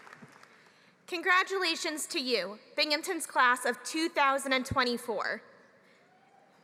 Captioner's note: applause